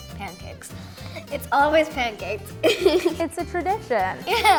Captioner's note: laughs